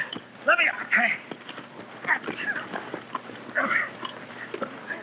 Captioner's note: men grunting